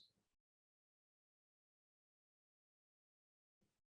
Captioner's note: no audio present